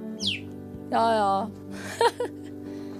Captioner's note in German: lacht